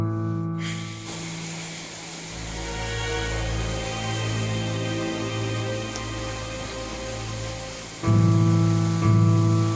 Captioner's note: water running